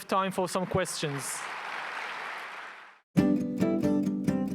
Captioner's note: audience clapping; lighthearted guitar music